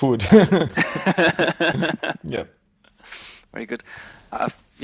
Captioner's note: both laughing